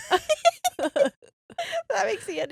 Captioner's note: laughing